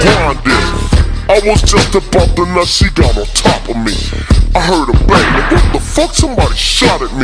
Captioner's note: shot